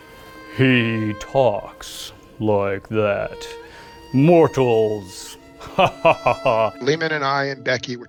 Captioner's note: laughing